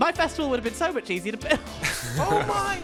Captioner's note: laughs